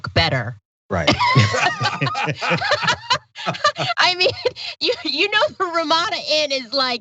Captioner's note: laugh